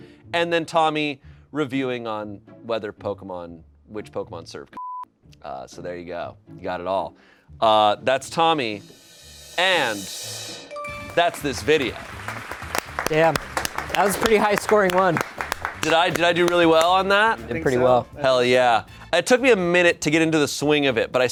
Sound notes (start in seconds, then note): 4.7 beep; 8.8 drum roll hisses; 10.7 bell chimes; 11.2 crew applauds